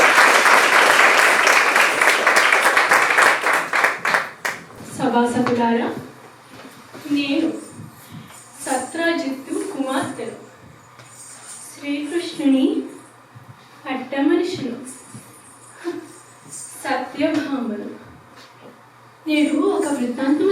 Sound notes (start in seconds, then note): 0.0 applause; 4.2 addresses audience in another language